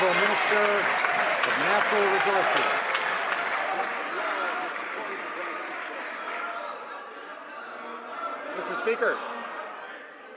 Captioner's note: some Applause